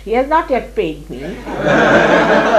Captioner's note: laughter